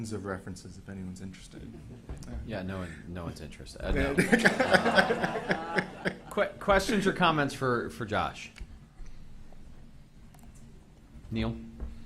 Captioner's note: people in the room laugh